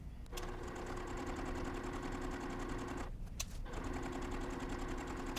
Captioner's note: sewing machine whirring